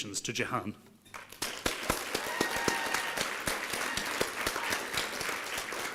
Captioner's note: applause and cheering